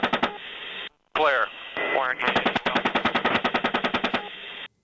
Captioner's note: rapid gunfire; rapid gunfire